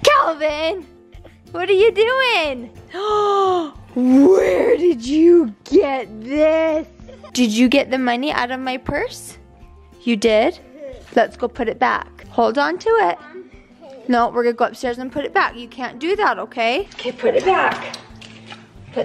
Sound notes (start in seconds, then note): 2.9 gasps